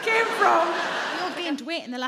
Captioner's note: audience laughing